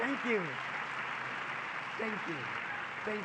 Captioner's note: public applause